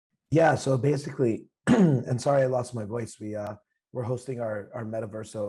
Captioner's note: coughs